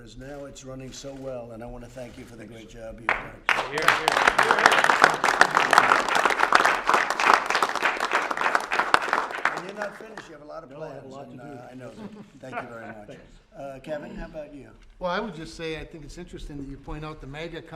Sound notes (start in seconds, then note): 3.0 applause